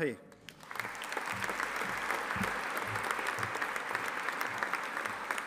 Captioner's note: audience applauding